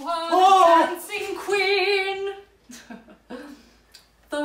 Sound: startled man; chuckles

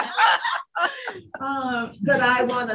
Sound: laughter

